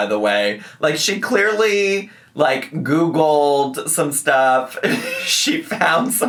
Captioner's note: laughs